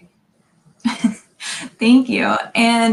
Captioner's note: laughing